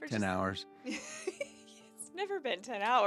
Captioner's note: laughing